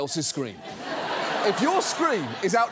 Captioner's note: studio audience laughs